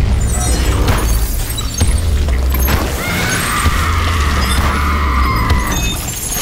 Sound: metallic chittering; Raven screams

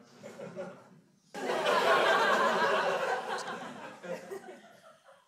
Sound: crowd laughs

